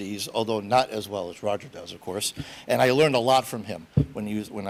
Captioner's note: none